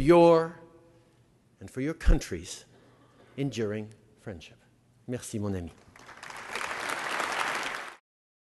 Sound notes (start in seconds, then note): 5.8 applause